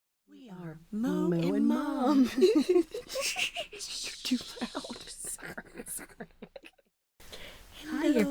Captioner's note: laughing; laughing continues